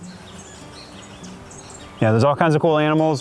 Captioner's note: birds chirping